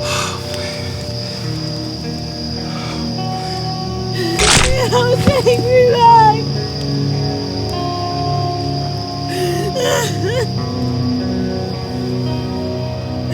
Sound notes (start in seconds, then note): 4.3 flesh squelches; 9.3 Cammy sobbing